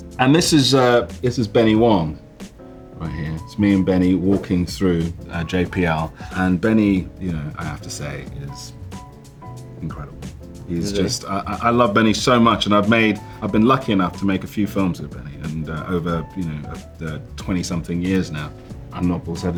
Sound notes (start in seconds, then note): 4.3 slide swipe